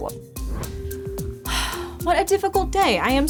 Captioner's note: exhales